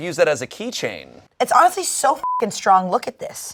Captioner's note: beep